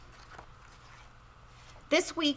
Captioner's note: pages rustling